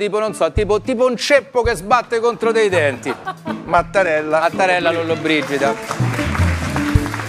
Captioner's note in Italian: Applauso